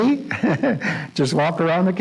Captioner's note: laughs